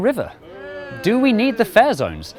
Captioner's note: boo